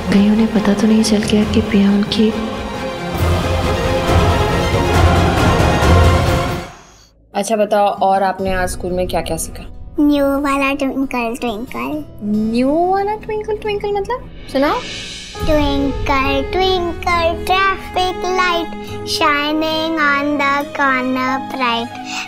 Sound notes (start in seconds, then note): 6.5 Car approaching